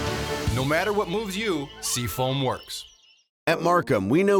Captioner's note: voiceover